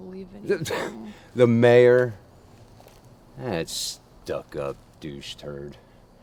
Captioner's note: riendo